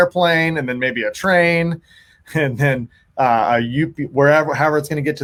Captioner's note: laughs